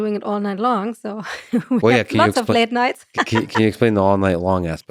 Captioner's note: laughs